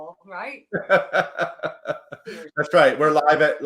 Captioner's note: laughs